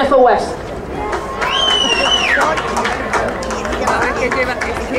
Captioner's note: crowd applauding